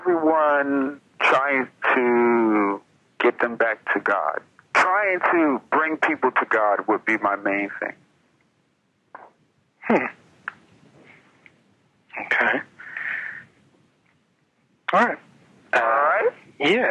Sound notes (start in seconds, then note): 10.4 hums